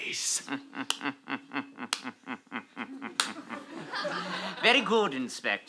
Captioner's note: sinister chuckle